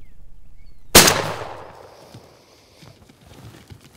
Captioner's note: gun shot